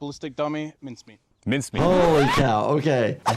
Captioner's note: audio squeaking